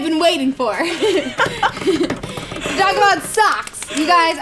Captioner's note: laughing; table banging